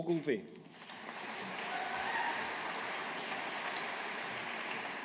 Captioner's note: audience applauding